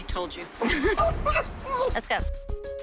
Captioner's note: laughs